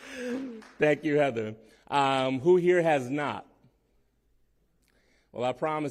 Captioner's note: laughter